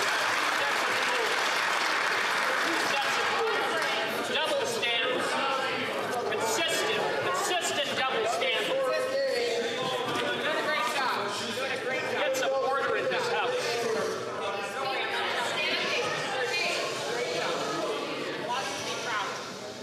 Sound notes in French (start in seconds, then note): 3.6 applaudissements